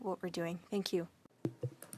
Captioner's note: speaking French